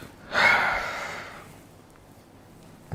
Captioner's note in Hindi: गहरी सांस लेने की आवाज़